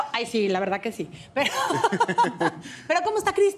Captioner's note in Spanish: Ríe